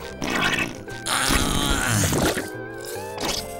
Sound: grunting

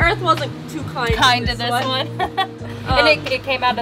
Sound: laughs

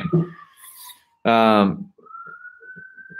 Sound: sirens

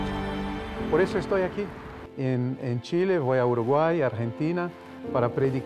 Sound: speaks Spanish

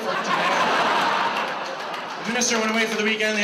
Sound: audience laughs

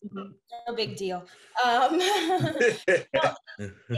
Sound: laughs

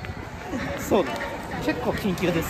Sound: laughs

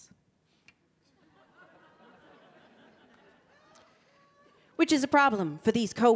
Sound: audience laughing

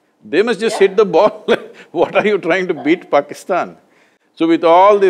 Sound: laughs

